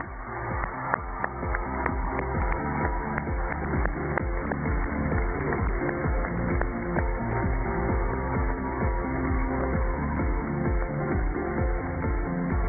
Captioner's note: cheers and applause